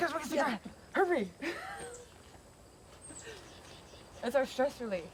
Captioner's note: laughs